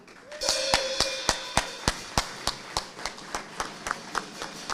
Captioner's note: audience applauding